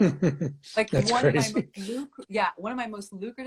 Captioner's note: laughs